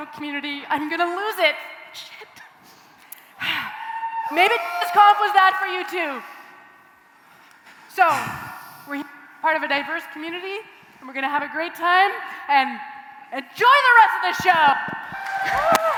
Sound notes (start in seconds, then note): 15.0 cheering and applause